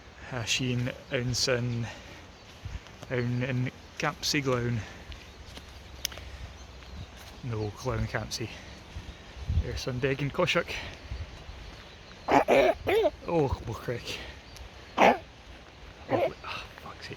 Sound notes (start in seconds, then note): 12.2 toddler coughs